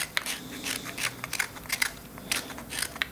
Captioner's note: scratching carving